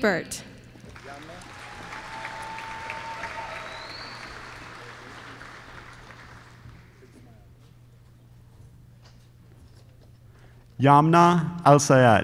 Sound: applause

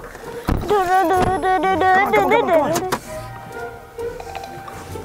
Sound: humming

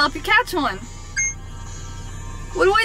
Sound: beep

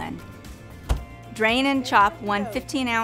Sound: refrigerator door closing

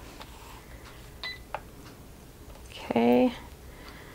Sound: machine beeping

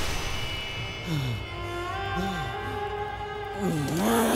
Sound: gasping

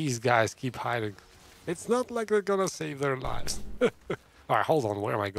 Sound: laughs

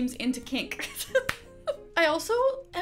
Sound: giggling

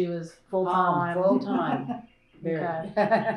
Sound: laughter

